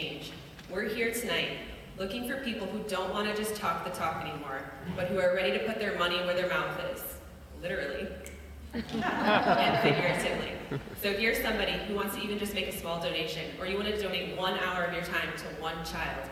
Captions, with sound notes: we're here tonight looking for people who don't want to just talk the talk anymore but who are ready to put their money where their mouth is literally (snap) and figuratively. So if you're somebody who wants to either just make a small donation or you wanted to donate one hour of your time to one child